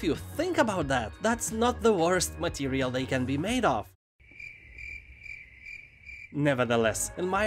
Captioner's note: crickets chirping